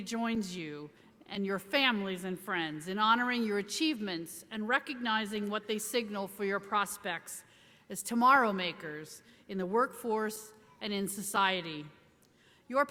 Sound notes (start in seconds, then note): none